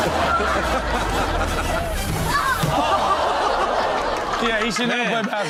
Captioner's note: audience laughs